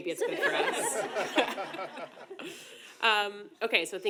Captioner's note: audience laughing